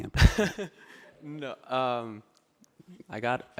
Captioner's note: laughing